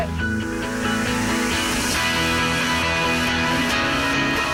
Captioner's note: none